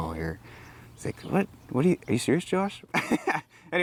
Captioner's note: laughs